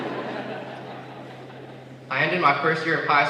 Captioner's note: laughter